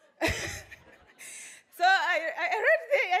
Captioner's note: laughs